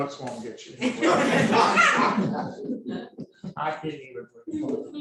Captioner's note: audience laughing